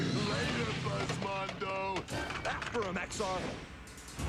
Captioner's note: laughs